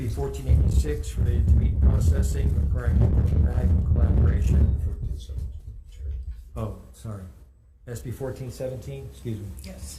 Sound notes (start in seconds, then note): 2.7 static from microphone drowns out